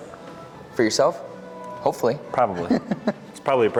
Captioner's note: chuckles